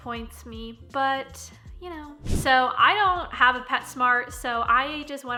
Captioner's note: whooshing